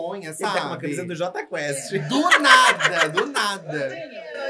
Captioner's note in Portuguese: gargalha